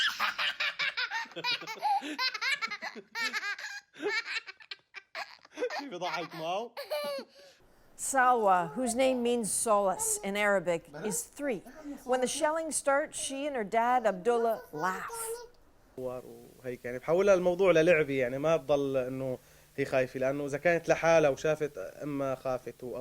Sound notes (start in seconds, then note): 3.2 laughter